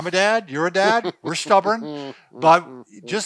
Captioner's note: laughs